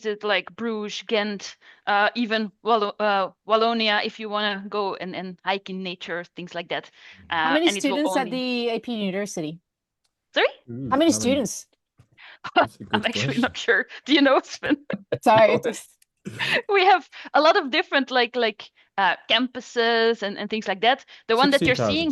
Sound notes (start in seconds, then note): 12.5 laughs